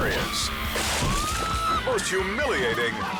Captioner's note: person screams